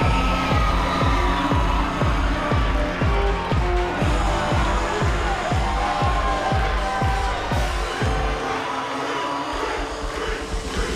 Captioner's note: crowd cheering